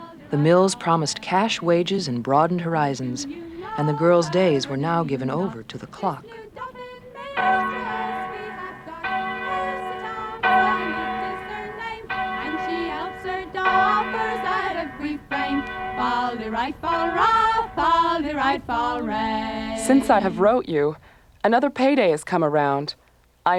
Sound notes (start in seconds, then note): 7.8 clock chimes